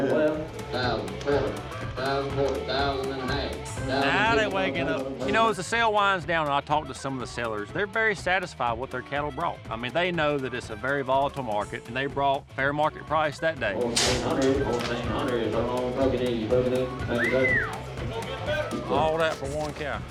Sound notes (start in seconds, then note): 0.2 auctioneer speaking; 13.6 auctioneer speaking; 17.0 whistles